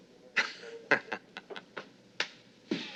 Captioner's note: laughter